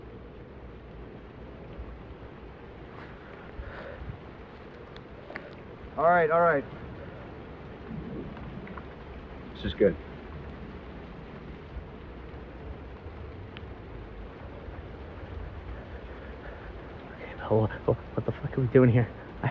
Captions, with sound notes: [TEDDY BREATHES HEAVILY] Alright, alright. This is good. Okay Bill, what the fuck are we doing here?